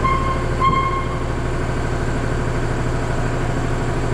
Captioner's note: tire squeaking